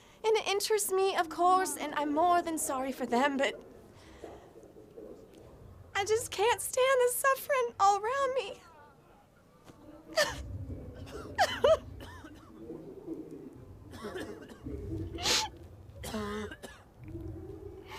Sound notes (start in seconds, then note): 11.1 crying